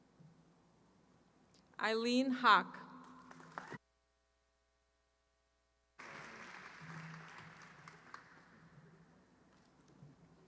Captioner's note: applause